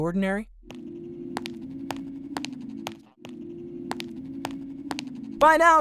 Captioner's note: footsteps